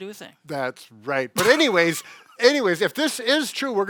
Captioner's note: laughs